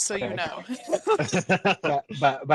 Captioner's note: laughing